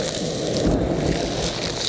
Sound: vacuum

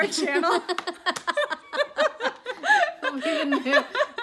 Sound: both laugh

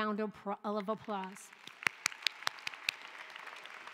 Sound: applause

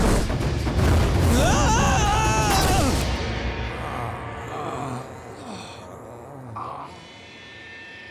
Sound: groaning

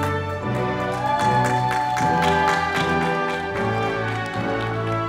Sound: audience applauding

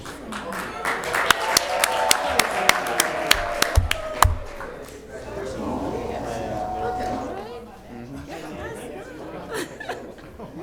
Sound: applause

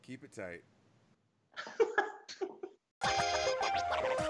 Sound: laugh

